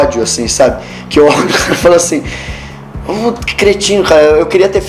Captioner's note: laugh